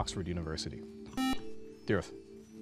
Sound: buzzer

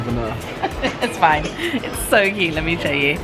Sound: laughs

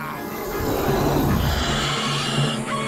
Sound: growling

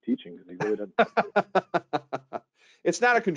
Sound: laughing

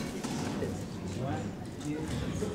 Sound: none

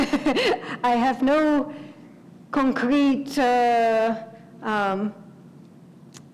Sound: laugh

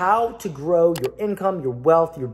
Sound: click

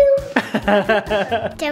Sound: chuckle

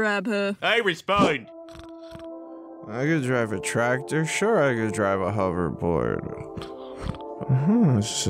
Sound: snoring

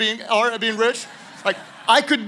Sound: congregation laughing

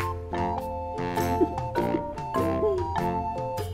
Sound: laughs

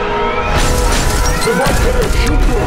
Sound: shots firing

